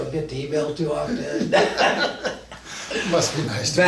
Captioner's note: both men laugh